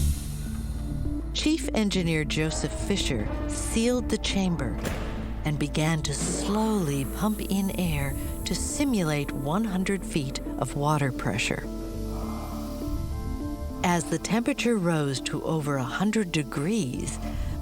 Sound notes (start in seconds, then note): 0.0 valve opens; 11.7 inhaling and exhaling audibly